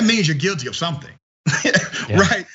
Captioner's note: laugh